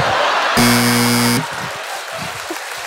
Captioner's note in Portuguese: campainha